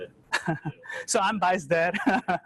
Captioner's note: laughs